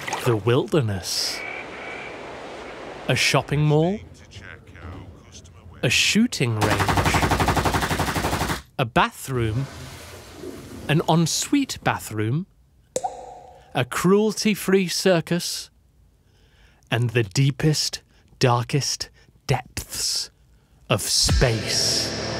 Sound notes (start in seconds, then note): 7.3 shooting range sfx; 9.4 bathroom sfx; 12.9 poop sfx